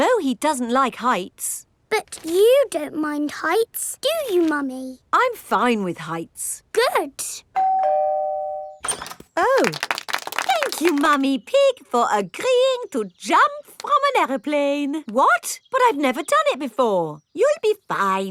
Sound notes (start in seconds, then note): 7.5 doorbell ringing; 9.5 crowd applauding